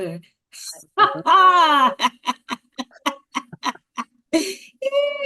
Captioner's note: laughing